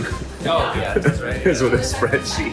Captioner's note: laughs